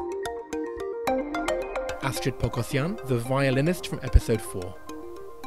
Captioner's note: voiceover